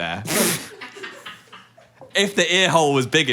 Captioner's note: all laugh